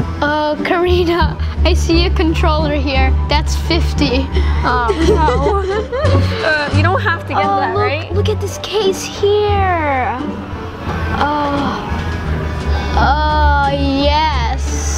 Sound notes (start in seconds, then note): 4.3 giggles